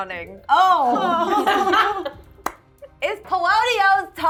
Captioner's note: laughing